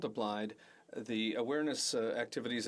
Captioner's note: speaking French